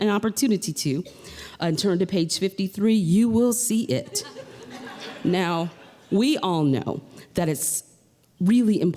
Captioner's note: laughter